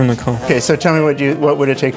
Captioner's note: bee buzzing